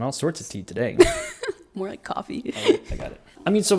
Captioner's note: laughs